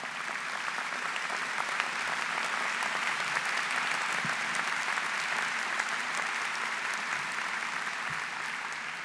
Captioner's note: applause